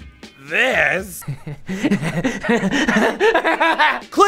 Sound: laughes like a monster

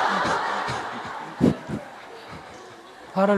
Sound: audience laughter

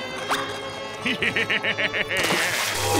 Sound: laughing

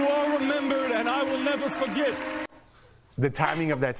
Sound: applause

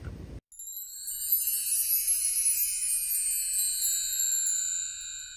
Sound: wind chimes

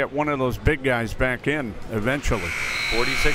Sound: buzzer

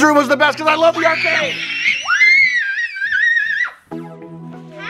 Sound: girls cheer

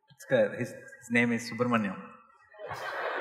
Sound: laughter

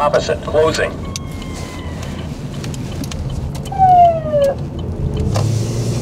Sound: sirens

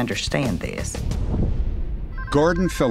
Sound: phone ringing

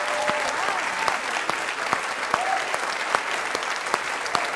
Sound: David clapping

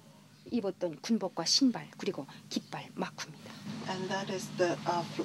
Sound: speaking foreign language

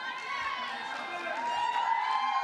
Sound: cheering

